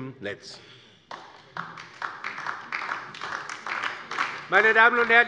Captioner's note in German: Beifall DIE LINKE